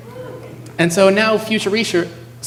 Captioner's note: cheering